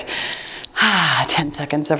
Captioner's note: timer beeps